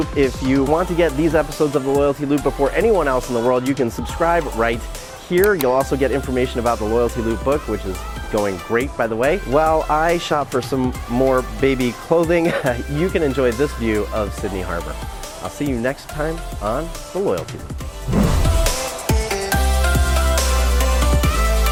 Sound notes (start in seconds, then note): 12.4 chuckling; 18.0 energetic EDM music